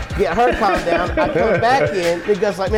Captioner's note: laughing